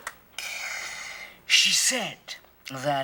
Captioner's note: inhales